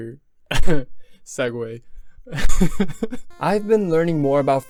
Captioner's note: cough